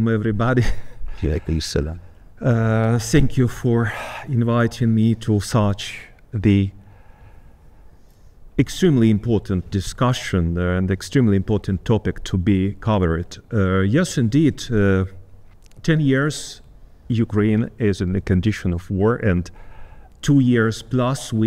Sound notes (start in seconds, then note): 1.4 speaking Arabic